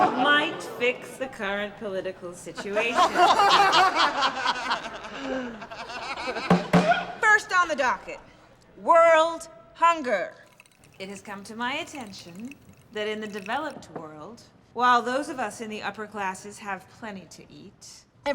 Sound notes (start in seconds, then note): 0.0 laughter; 3.4 laughter; 6.5 bangs gavel